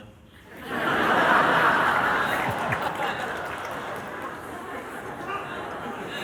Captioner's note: laughter